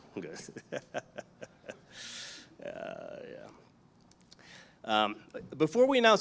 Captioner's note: audience chuckles; chuckles